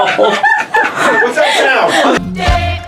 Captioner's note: laughter